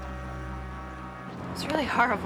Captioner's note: ship horn blows in distance